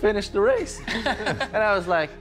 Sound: everyone chuckles

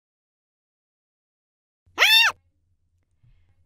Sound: high pitched scream

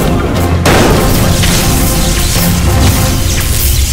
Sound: electrical buzz

